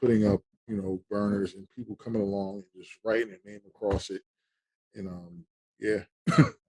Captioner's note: laughing